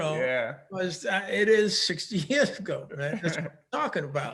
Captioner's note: both laughing